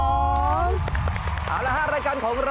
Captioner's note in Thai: เสียงปรบมือ